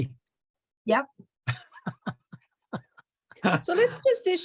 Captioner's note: laughter